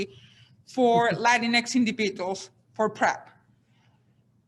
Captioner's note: man laughs